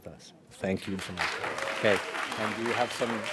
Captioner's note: audience applauds